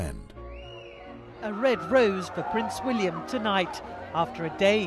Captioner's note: voiceover